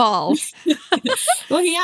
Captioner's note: laugh